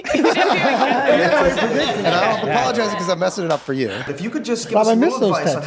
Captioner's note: group laughs